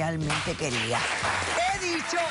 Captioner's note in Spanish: aplausos